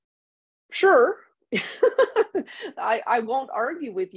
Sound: laughs

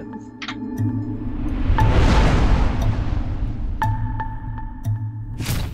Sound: tense music; logo whooshing

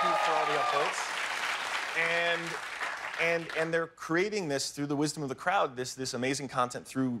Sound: applause

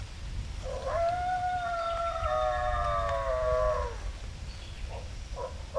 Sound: repeated howls nearby

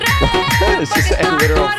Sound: laughs

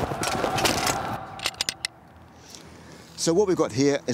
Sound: soldiers yelling; weapon clanking

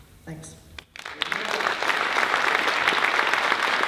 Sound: applause

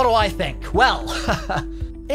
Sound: laughs

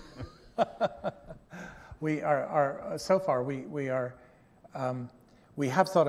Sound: laughter

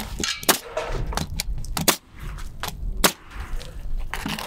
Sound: nail gun bangs

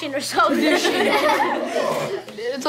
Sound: laughing

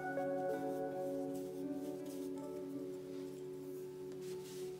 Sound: sounds of paintbrush on paper

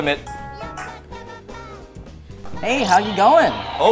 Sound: ringtone

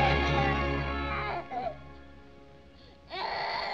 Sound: crying

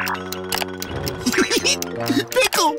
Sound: giggling

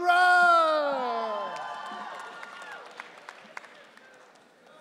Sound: audience cheering

